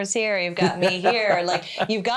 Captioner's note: laughing